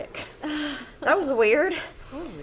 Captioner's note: laughs